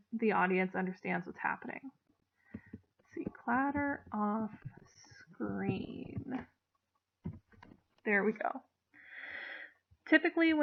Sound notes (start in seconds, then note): 5.7 clatter offscreen